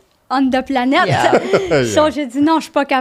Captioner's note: laughing; in french